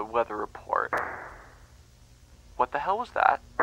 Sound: gunshot

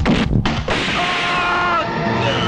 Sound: gunshot

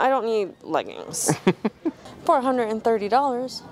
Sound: laughing

